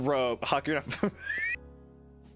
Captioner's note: wheeze